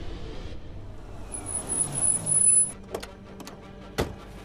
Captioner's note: car approaching